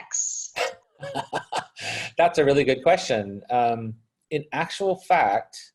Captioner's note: laughs